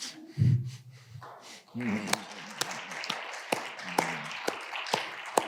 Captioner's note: audience applauding